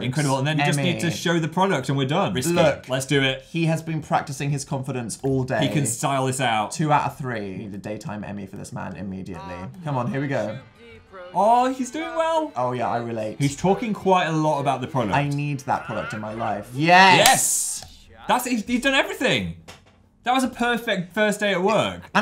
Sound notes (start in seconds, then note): 17.2 claps